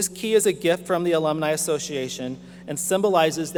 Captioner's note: none